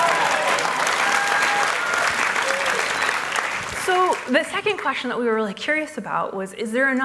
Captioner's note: applause